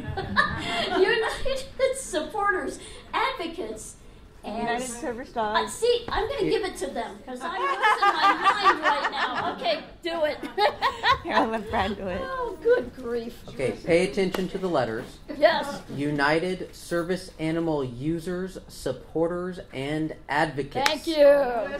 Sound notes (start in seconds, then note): 0.0 laughs; 10.3 laughs